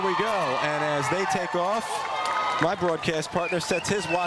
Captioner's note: cheers